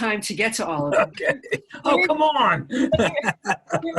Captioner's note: laughing